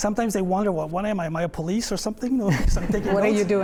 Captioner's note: laughter